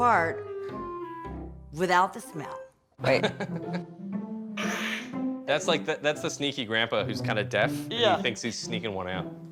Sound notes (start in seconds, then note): 4.6 fart